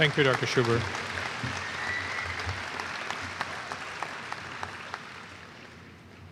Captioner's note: applause